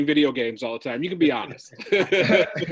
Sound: laughs

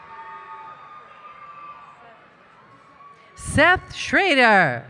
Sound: cheering

